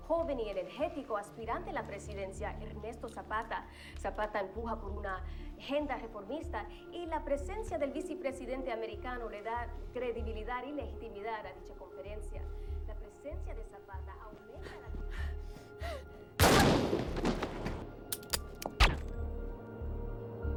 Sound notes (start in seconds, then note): 14.5 breathing hard; 16.4 gun firing; 16.4 gun clicking; 18.8 gun firing